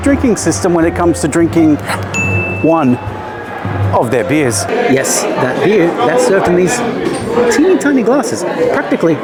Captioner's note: ding